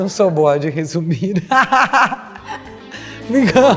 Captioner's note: laugh